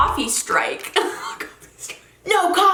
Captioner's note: laughs